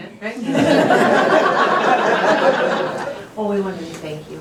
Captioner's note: laughter